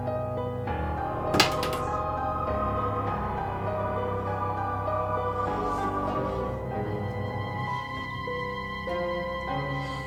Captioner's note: scrubbing; letter opener drops